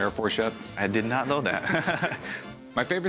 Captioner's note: chuckles